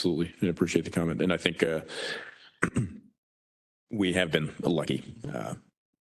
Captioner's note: cough